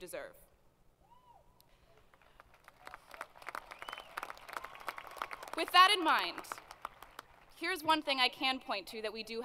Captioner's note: applause